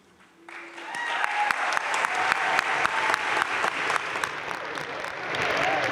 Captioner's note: crowd cheering and applauding